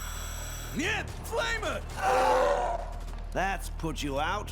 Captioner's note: gunfire, respirator breathing stops with scream